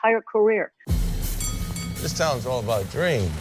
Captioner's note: clanking